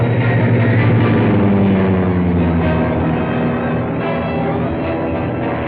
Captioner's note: dramatic music; plane whirring